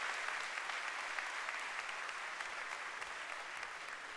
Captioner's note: cheering and applause